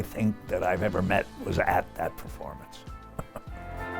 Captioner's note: chuckling